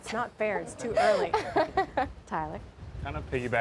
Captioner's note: laughs